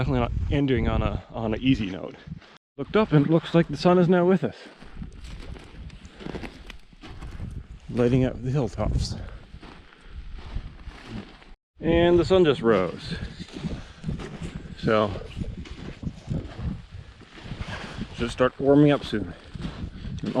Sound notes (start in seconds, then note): 4.6 gravel crunching; 14.0 footsteps thumping